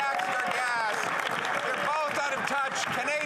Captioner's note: some Applause